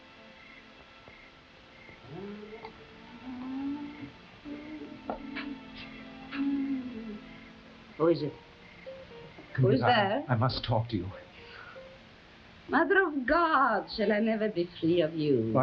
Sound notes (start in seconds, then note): 2.0 Camila humming